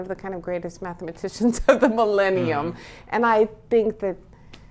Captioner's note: laughs